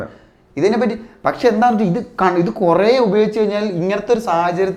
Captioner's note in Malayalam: തൊണ്ട ശരിയാക്കുന്നു